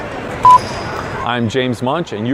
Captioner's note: beeping